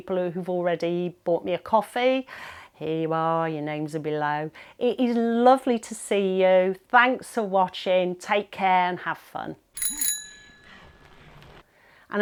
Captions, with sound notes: who've already bought me a coffee. Here you are, your names are below. It is lovely to see you. Thanks for watching, take care, and have fun. (bell dings)